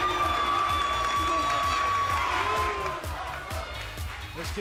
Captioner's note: cheers & applause